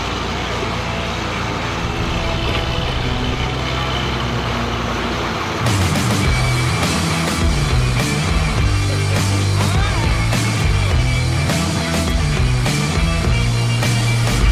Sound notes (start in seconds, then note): 0.9 vehicle engine humming; 6.4 intense rock music